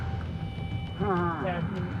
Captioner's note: muffled moan